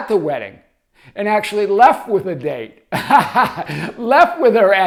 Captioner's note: laughs